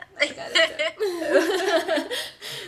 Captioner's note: laughs